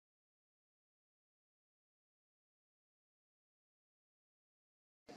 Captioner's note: silence